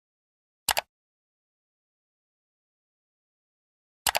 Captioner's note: click